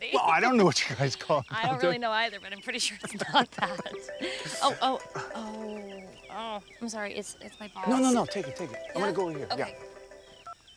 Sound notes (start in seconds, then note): 3.6 phone ringing